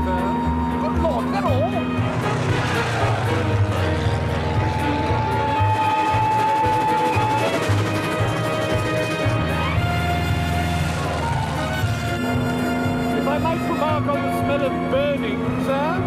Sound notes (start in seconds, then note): 4.8 whistling